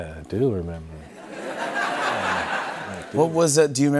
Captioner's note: laughter